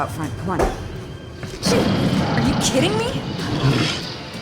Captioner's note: growls